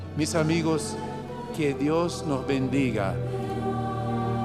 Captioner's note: speaking Spanish